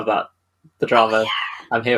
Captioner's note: whispers